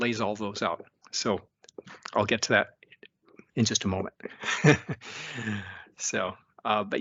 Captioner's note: laughs